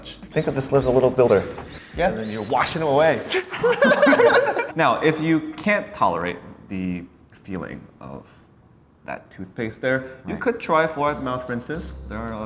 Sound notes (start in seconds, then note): 3.3 laughing